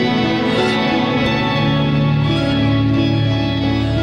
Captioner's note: goose squawking